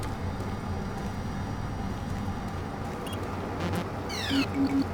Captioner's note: beeping